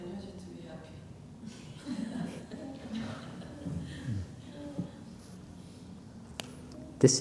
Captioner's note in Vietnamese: laughter